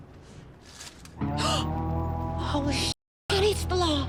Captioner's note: gasps